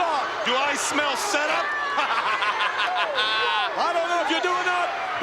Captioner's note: laughs